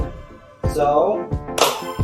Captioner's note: claps hand